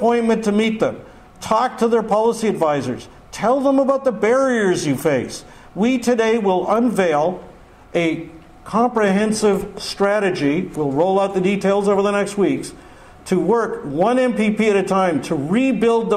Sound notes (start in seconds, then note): none